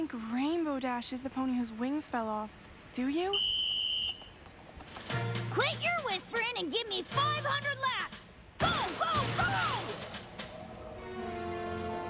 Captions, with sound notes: YOU DON'T THINK RAINBOW DASH IS THE PONY WHOSE WINGS FELL OFF, DO YOU? [ WHISTLE BLOWS ] QUIT YOUR WHISPERIN' AND GIVE ME 500 LAPS. GO! GO! GO!